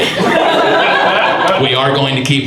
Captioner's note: audience laughs